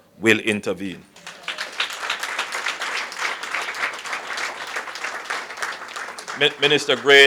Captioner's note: applause